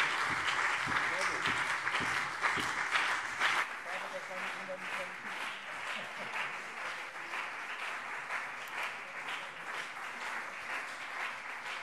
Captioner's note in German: Lang anhaltender Beifall CDU und BÜNDNIS 90/DIE GRÜNEN